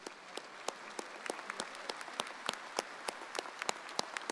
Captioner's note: audience applauds